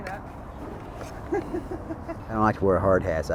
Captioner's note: laughs